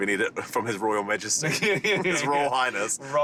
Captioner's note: laughing